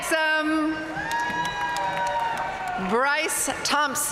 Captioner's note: audience cheering and applauding